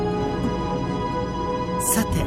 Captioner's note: alert